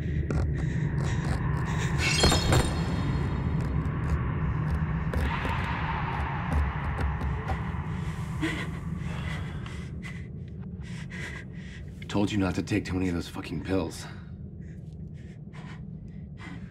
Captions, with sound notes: (scratching) (glass crashing) (suspenseful music) (heavy breathing) Told you not to take too many of those fucking pills.